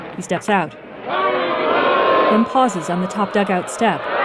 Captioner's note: crowd booing